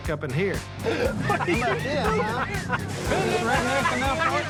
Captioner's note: laughing